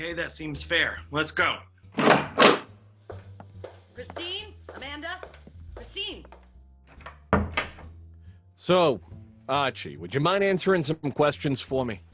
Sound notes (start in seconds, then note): 3.8 footsteps and door opening; 5.1 distant shouting; 7.5 door closes